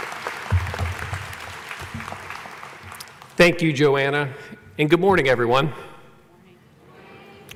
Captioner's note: applause